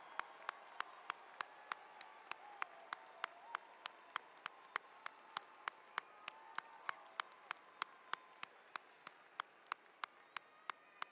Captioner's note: cheers and applause